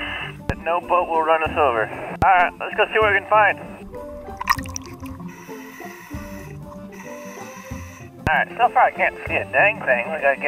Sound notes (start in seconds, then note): 5.1 deep breathing